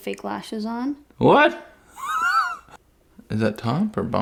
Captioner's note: laughs